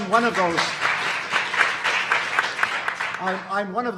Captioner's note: audience applauding